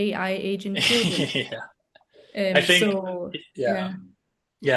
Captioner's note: laughs